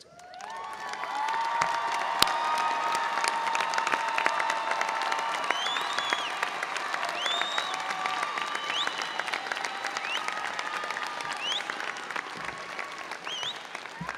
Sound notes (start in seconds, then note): 0.2 audience applauding and cheering; 5.4 audience member whistling